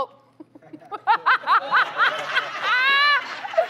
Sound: laughter

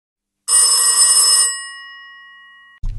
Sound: phone rings

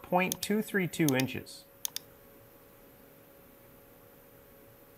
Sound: mouse clicking

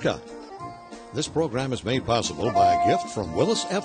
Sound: voiceover

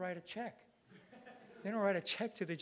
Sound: audience laughing

